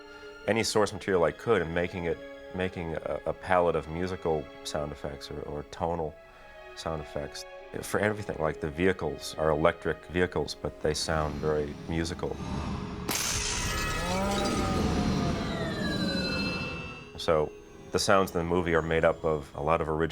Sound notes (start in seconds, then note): 11.6 musical whirring